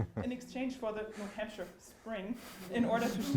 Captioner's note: audience laughs